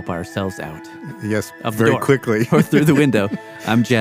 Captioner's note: laughs